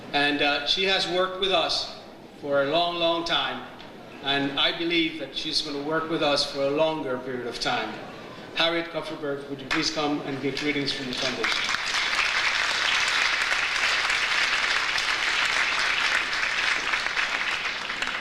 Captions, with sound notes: and she has worked with us for a long, long time, and I believe that she's gonna work with us for a longer period of time. Harriet Cupperberg, would you please come and give greetings from your foundation? (audience applauds)